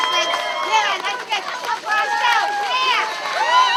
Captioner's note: crowd cheering